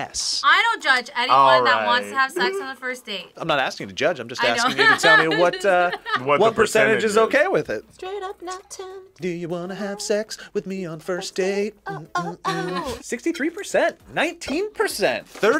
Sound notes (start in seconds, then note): 4.5 laughs